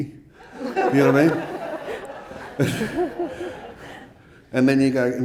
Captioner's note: audience laughing